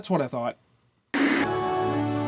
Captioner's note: TV static